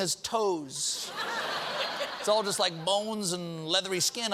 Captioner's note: laughter